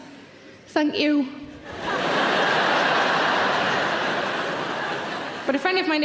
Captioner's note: audience laughing loudly